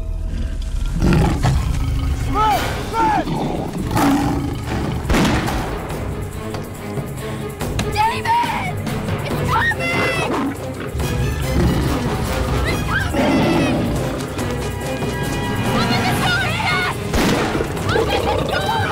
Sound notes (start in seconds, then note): 5.0 Gunshot; 17.1 Gunshot